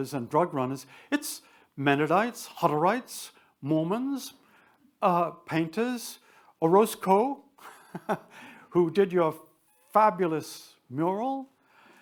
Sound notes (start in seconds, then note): 7.6 chuckles